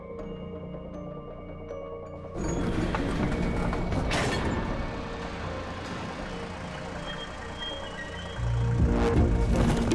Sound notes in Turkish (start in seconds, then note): 2.4 Kapı açılma sesi; 7.1 Müzik - Gerilim